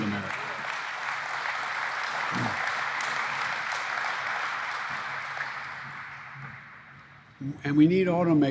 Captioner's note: applause